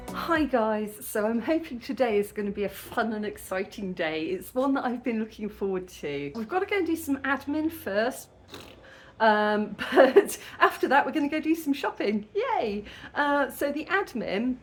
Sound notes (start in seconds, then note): 9.3 raspberry